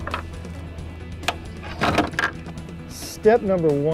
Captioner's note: gas nozzle touches tank